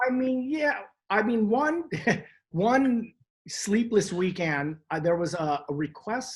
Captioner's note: chuckles